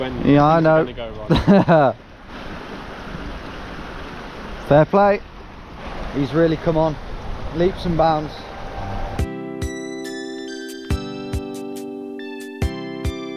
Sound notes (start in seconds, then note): 1.2 chuckles; 2.3 water whooshing; 8.3 joyful music